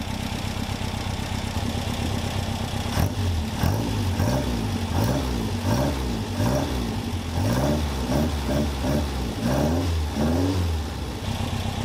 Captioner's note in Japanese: エンジン音